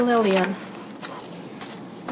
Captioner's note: voiceover